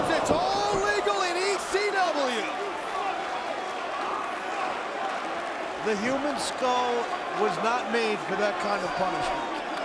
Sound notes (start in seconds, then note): 3.0 crowd chattering